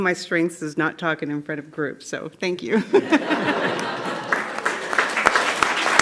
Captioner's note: clapping